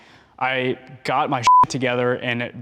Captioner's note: beep